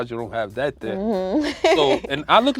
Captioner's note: laughs